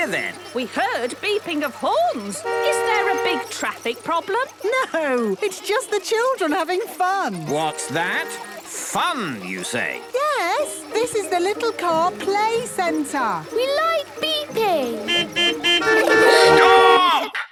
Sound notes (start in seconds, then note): 14.6 horns beeping